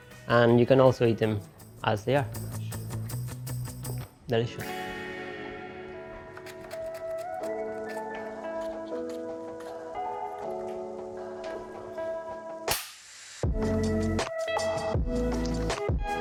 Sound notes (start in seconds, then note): 6.6 relaxing music; 12.6 clapboard claps